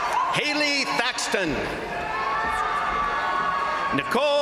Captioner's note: crowd applauding; crowd cheering